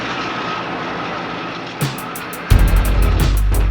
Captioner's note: machine whirring; suspenseful dramatic music